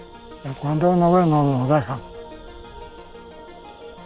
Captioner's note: speaking Spanish